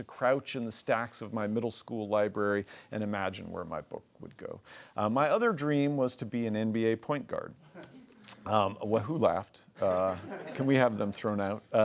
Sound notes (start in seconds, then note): 7.7 laughing; 9.8 laughing